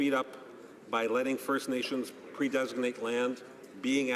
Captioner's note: none